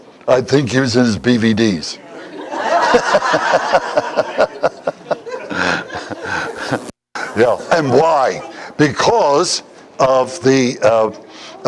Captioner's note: Смех